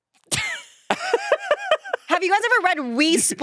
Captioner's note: laughing